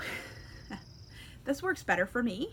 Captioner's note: chuckles